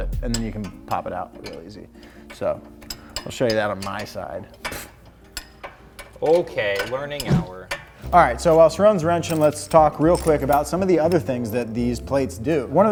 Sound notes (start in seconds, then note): 5.2 equipment clanks